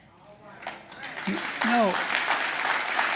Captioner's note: applause